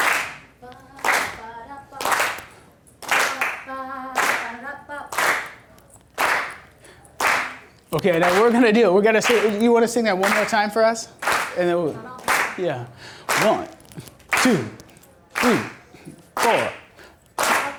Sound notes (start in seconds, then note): 12.6 voiceover